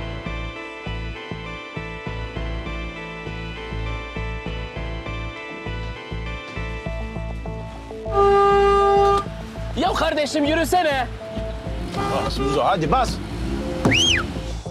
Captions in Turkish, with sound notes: (Korna çalıyor) Kardeşim, yürüsene! Bas Muzo, hadi! (Islık çalıyor)